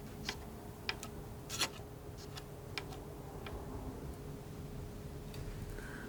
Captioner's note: tapping